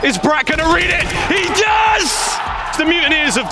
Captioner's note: crowd cheering